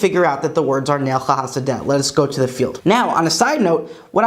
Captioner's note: Hebrew